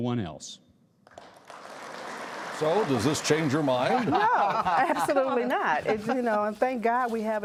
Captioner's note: applause